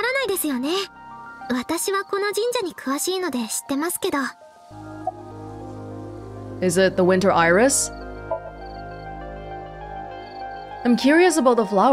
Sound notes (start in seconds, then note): none